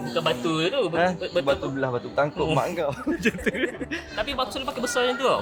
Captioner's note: laugh